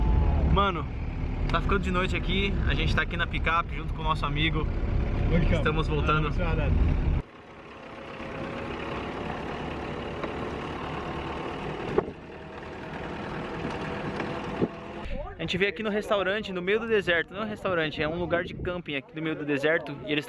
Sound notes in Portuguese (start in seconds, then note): 9.1 som de carro